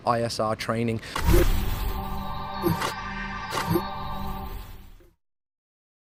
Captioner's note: intense electronic sounds